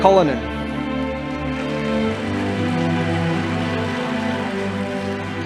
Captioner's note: audience applauding